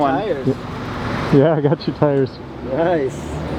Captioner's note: laughing